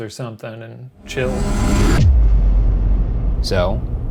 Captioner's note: air whooshing